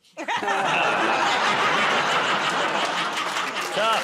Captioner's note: laughter, groaning